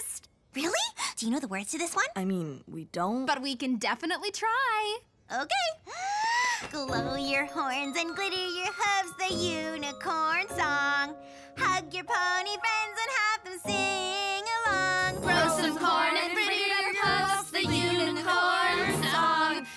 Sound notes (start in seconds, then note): 5.9 deep breath